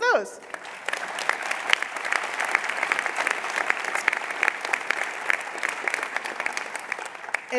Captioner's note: applause